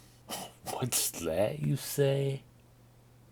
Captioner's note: laughing